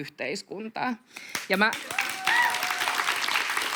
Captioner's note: aplodeja